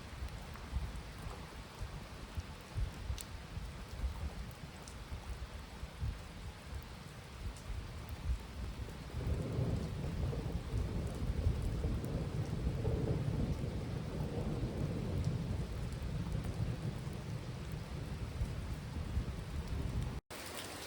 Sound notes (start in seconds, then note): 0.1 heavy rainfall; 9.7 rumble of thunder